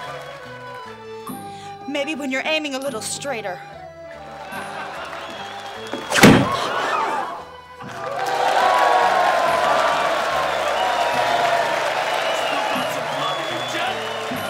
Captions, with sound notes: Maybe when you're aiming a IittIe straighter. (ALL LAUGHING) (CROWD GASPING) (ALL CHEERING) Want some poverty, Jen?